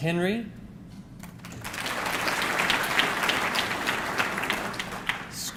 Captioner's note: audience clapping